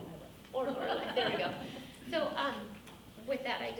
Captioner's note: speaking off mic